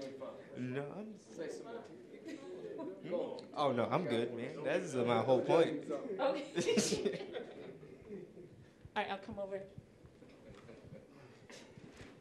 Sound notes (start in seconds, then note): 6.6 audience chuckling